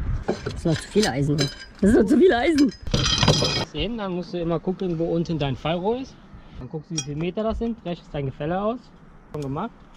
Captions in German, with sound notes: - Das sind doch zu viele Eisen?! Das sind doch zu viele Eisen?!?! [KLAPPERN] Jetzt gehst du hin dann musst du immer gucken wo unten dein Fallrohr ist.. Dann guckst du, wieviel Meter das sind.. Rechnest dein Gefälle aus.. Schon gemacht?